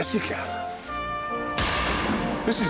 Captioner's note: shotgun blast